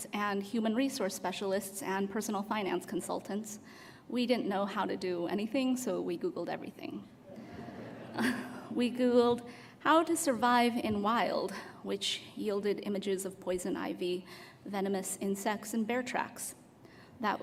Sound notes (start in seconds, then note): 7.3 laughter